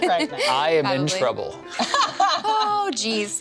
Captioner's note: laughs